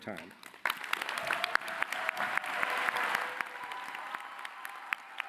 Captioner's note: cheering